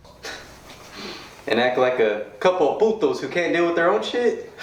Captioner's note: speaking in foreign language